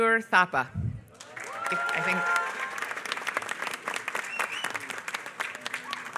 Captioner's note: applause